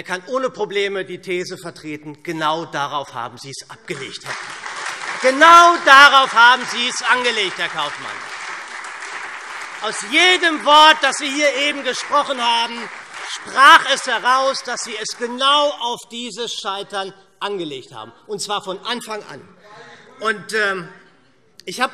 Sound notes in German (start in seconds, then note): 4.1 Beifall SPD und Freie Demokraten